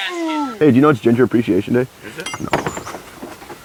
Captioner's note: beep